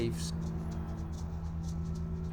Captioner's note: percussive rattle sound